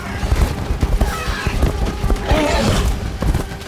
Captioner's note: tyrannosaurs squealing, roaring